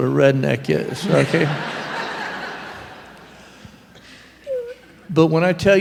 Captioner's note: laughter